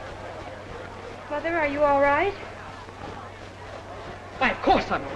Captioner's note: crowd murmuring